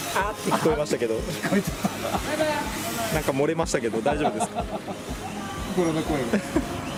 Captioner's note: laughs